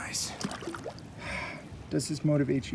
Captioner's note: water splashing